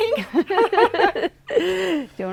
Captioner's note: laughing